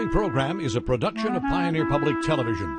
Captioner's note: voiceover